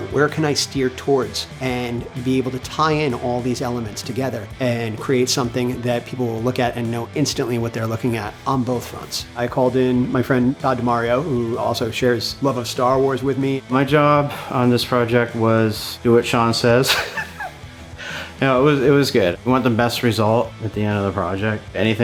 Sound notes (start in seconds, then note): 16.8 laughing